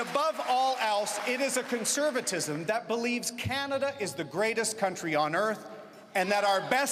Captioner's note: cheering and Applause